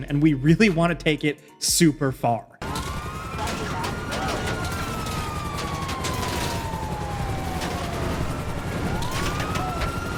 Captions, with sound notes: and we really want to take it super far. (sirens wailing) (guns firing)